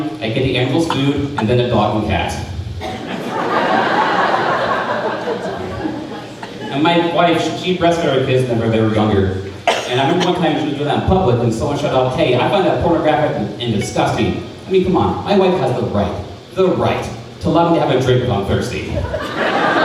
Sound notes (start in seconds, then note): 2.8 crowd laughing; 18.9 crowd laughing; 19.2 crowd ahhing